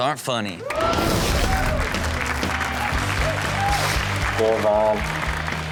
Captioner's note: audience cheer and applaud; upbeat music